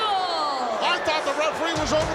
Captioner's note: audience booing